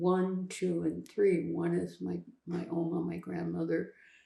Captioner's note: german